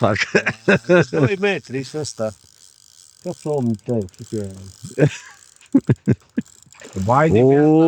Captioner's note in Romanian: râsete